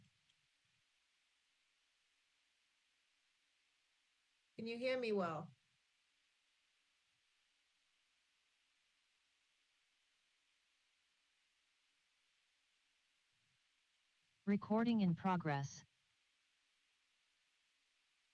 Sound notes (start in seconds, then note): 14.6 computer Voice